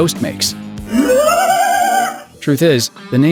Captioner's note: ghost wailing